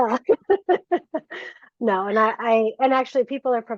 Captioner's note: laughter